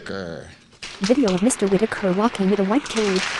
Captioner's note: applause